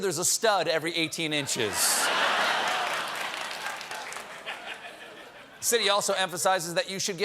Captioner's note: laughter